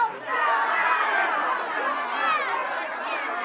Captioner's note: people yelling